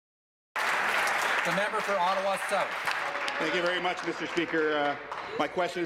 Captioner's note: applause